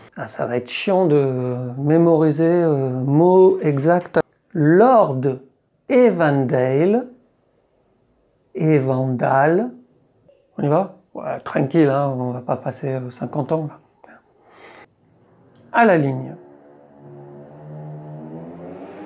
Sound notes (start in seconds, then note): 5.5 English accent; 8.9 French accent